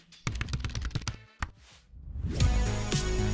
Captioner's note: upbeat music; keyboard keys clicking; lively electronic music